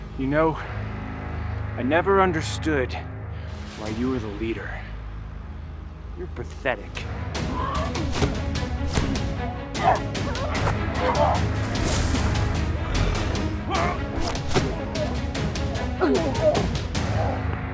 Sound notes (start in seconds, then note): 9.8 grunting; 11.7 zapping